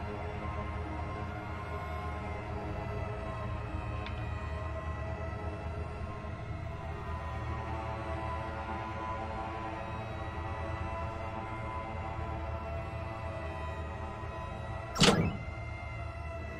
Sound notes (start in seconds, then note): 15.0 lever chunk